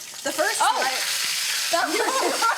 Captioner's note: sizzling